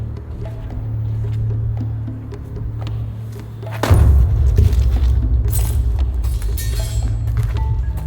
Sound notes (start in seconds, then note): 3.8 loud thud